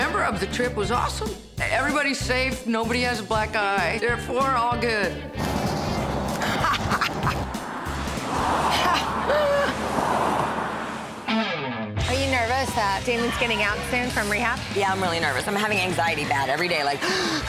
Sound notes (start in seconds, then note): 6.2 laughing